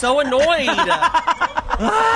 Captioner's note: laughs